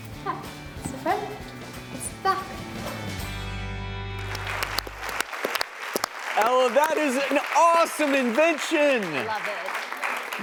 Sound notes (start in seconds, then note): 3.5 upbeat guitar music; 4.1 audience and panel applauds